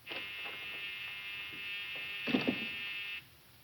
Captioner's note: door buzzes